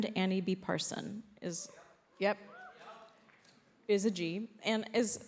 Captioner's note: audience cheers